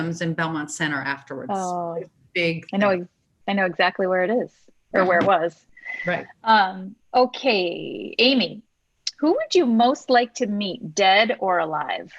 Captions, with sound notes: and Belmont Center afterwards. (audio warps) - I know exactly where it is or where it was. - Right. - Okay, Amy, who would you most like to meet dead or alive?